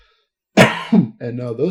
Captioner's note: coughs